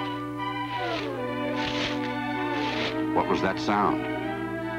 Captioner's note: leaves rustling